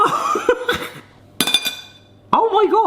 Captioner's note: laughing